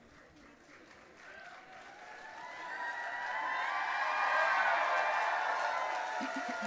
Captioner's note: audience applauding and cheering